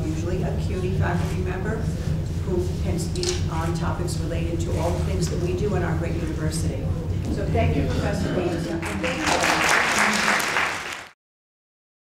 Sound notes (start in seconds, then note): 8.8 audience applauds